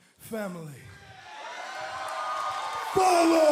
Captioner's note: cheers and applause